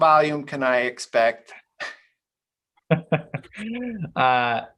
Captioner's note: laughs